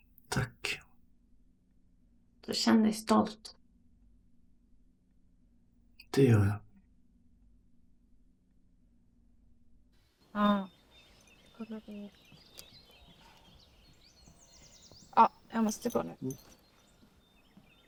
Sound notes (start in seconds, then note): 10.2 birds chirping